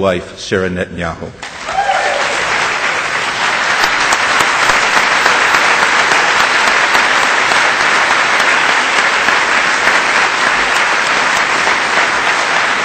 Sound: audience whistles and applause

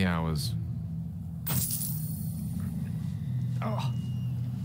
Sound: coin jingling sound; footsteps, somber ambient music

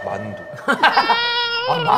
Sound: laughing

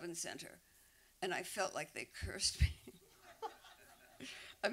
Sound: laughs

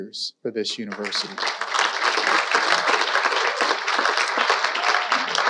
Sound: audience applauding

